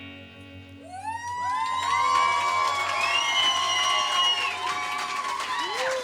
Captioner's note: audience applauding and cheering